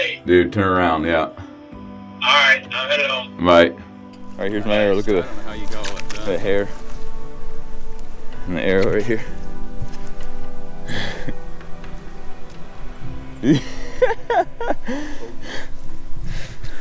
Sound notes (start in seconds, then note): 9.7 soft music; 13.3 excited laughter